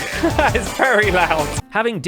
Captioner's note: laughs; very loud music